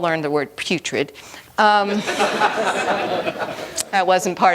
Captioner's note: laughter